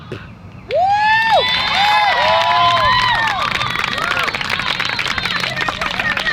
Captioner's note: crowd applauds and cheers